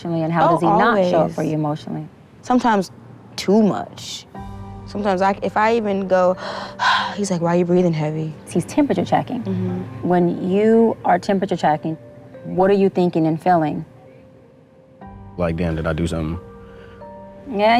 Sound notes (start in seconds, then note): 6.3 sigh